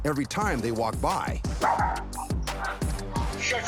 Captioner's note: dog barks